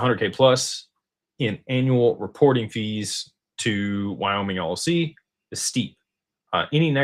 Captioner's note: none